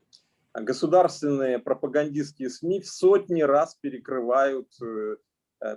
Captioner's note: speaking Russian language